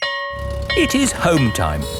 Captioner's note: school bell ringing